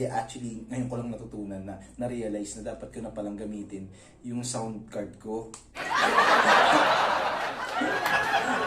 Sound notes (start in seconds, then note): 5.8 laugh